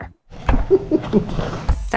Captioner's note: tester laughing